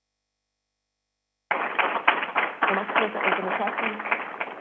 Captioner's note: crowd applauding